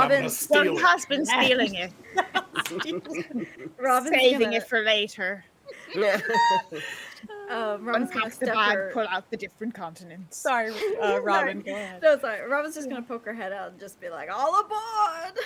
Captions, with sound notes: - Well he has been stealing it. (people laughing) - Robin's gonna... - Saving it for later. Unpack the bag pull the different continents. - Sorry, Robin, go ahead. - No, sorry, Robin's just gonna poke her head out and just be like, "All aboard."